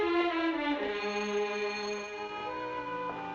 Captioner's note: doorbell Rings